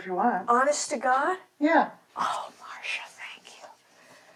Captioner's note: whispering